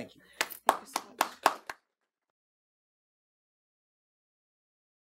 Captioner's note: audience applauds